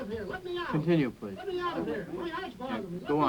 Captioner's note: voiceover